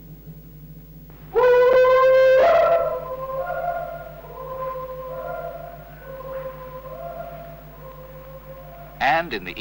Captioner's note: A call and echo